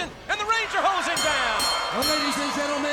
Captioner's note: bell clanging